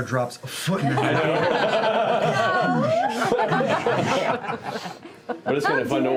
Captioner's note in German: Lachen